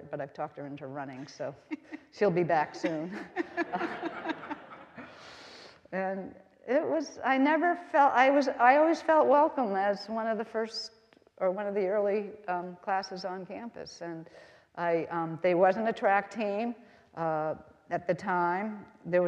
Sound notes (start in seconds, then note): 2.7 all laughing